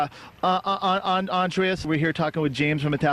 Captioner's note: stuttering